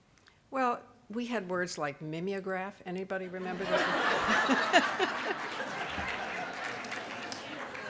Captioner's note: audience laughing